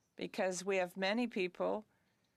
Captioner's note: speaking French